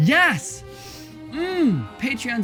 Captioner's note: sniffs